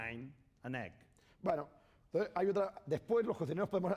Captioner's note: speaking spanish